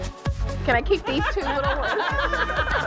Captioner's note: laughter